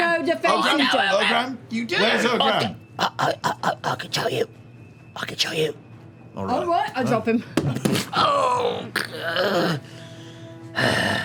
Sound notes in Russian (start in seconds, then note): 3.3 запинаясь; 8.1 стонет